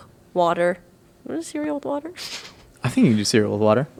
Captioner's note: laughing